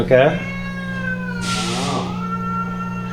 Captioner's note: meowing